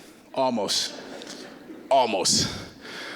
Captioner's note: audience laughing